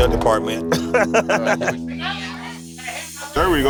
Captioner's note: laughs